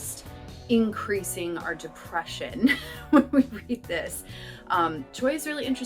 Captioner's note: laughter